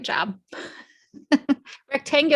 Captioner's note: laughs